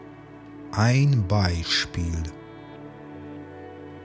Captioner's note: german